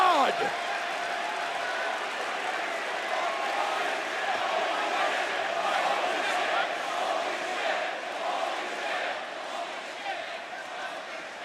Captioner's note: crowd cheering